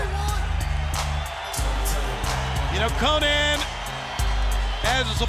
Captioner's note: crowd chatter